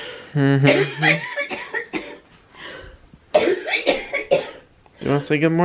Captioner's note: coughing